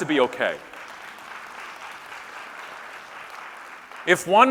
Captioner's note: scattered applause